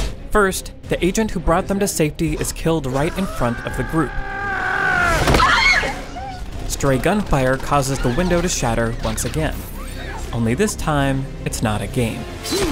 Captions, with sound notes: First, the agent who brought them to safety is killed right in front of the group. (screaming) Stray gunfire causes the window to shatter once again. Only this time, it's not a game.